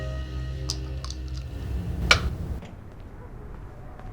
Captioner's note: pill bottle slams/door opens